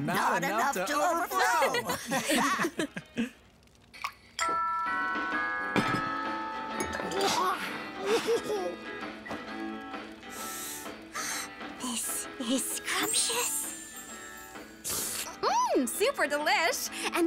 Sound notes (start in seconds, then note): 1.3 laughing; 8.0 giggling; 10.2 slurping